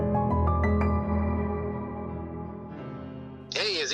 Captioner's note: phone ringing